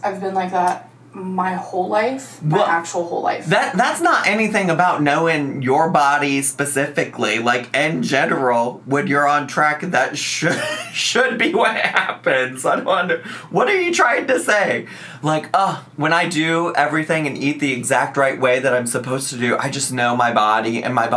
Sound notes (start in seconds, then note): 10.2 laughs